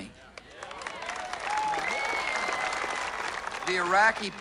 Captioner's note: cheers and applause